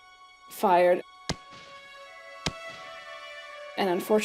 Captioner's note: gunshots